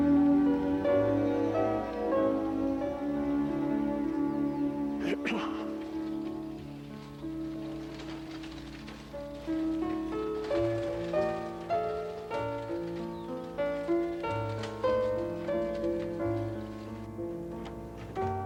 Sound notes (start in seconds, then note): 5.0 Reverend's throat clearing; 8.6 wagon rattling